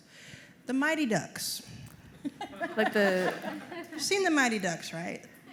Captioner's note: laughter